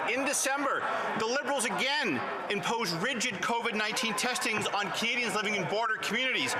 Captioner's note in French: voix de l'interprète